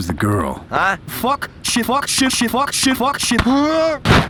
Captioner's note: excessive swearing